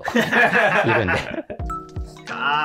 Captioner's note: laughing